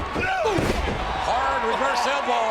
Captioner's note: Jeff groans